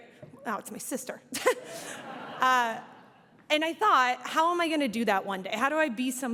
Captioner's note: audience laughs